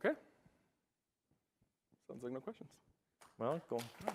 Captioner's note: applause